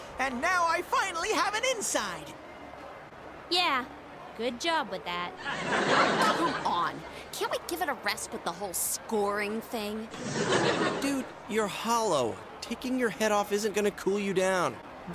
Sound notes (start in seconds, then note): 5.4 audience laughs; 10.2 laughter continues, boy this is a funny episode